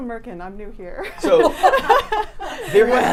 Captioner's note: women laughing